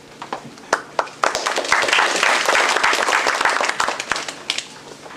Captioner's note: applause